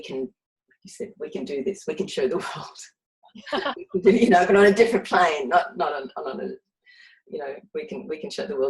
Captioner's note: laughs